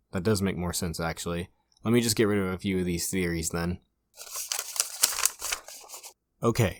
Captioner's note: shuffling Papers